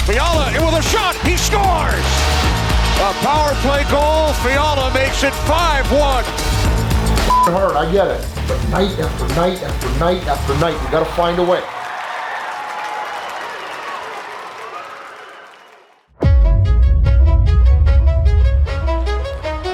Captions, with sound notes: - Fiala in with a shot. He scores. - A power play goal. Fiala makes it five, one. - It's hard, I get it, but night after night after night after night, we gotta find a way. (crowd cheers and applauds) (dramatic music)